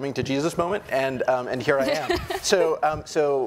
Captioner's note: woman laughing